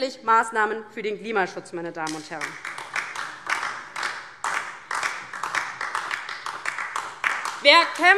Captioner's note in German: Beifall DIE LINKE